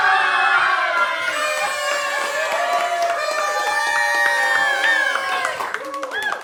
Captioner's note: cheering; party blowers blowing